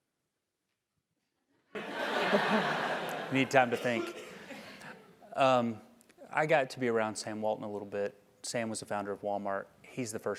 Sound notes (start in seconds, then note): 1.8 laugh